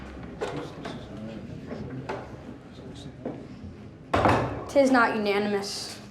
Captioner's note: people murmuring